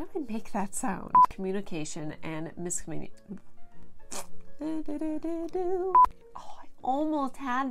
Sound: more weird duck fart sounds and singing

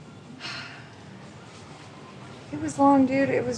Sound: sighing

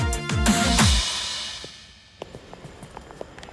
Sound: footsteps

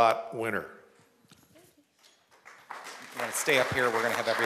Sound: applause

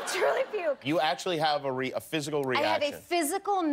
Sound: laughter

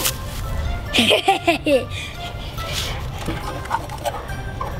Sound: laughs evilly

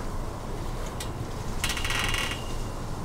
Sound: swing creaks

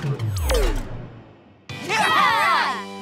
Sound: cheering

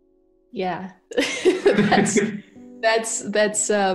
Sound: chuckles

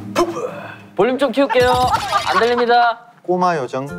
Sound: laughing out loud

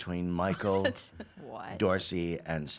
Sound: laughs

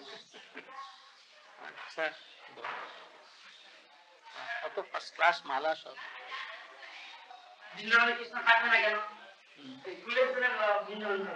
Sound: Hindi

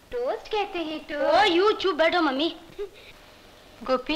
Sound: laughs

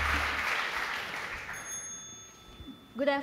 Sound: applause; bell rings

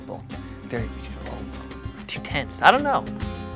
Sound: grumbles

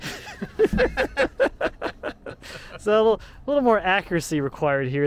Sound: men laughing

